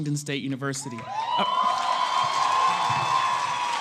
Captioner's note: applause